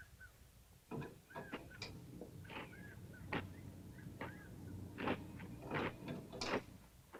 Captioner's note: opening sodas